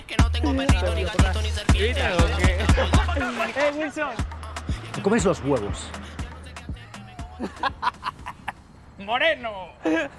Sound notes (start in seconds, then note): 2.2 laughter